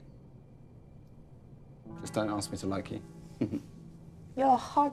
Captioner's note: chuckling